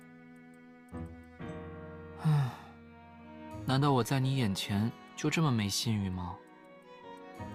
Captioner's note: sigh